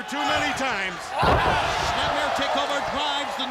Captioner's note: body thudding